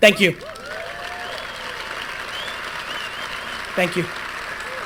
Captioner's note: applause, cheering